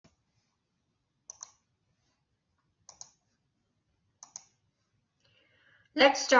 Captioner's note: silence